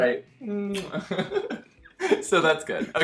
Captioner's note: kissing